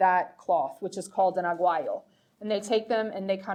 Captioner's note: speaking foreign language